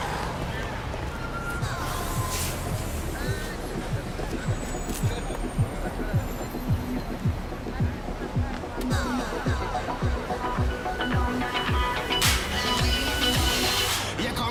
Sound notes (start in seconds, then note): 1.6 hydraulics hiss